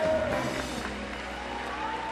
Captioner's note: claps